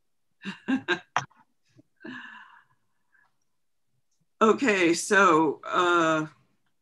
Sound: laughs

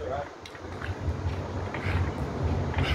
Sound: cranking; various epic chugging noises

